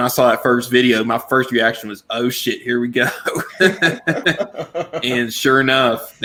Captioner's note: laughs